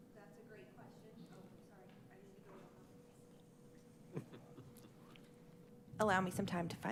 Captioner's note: faintly speaking